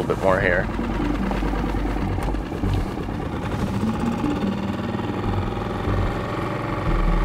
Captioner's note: engine chugging; somber synth music